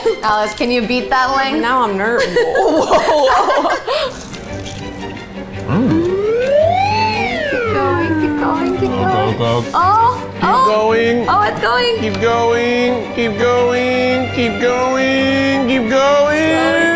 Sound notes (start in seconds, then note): 2.1 both laughing; 4.2 dramatic orchestral music; 4.3 electric slider whirring